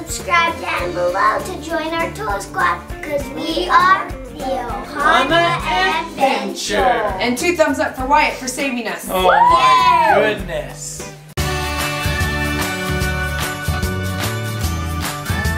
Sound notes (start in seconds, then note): 9.1 everybody cheering; 11.5 upbeat music